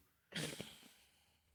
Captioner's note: laughs